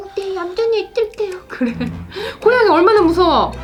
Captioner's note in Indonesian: tertawa